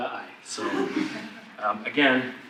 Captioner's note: audience laughs